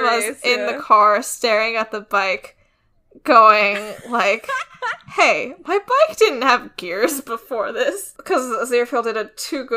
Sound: laughs

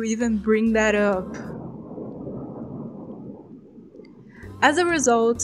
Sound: thunder

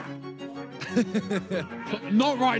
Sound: Ethan laughs

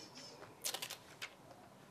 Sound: ttthwwwip

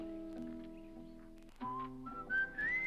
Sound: reflective guitar music; person whistles

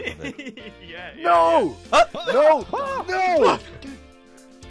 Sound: laughs; shouting

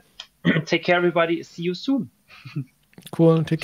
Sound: chuckles

